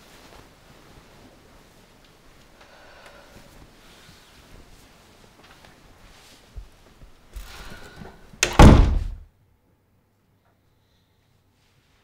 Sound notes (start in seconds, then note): 8.4 door Slam